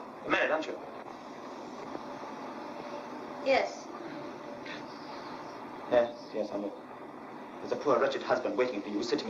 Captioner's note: none